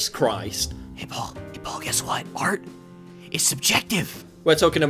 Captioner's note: whispering